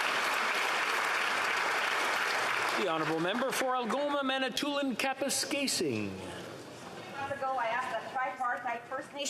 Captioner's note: applause